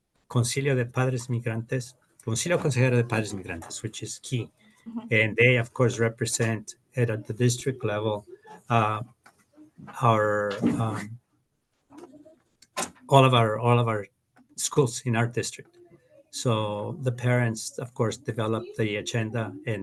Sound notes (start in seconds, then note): 1.3 speaking Spanish